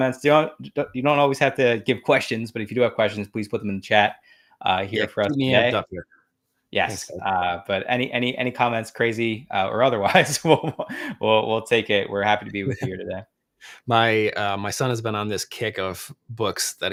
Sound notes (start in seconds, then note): 10.2 laughs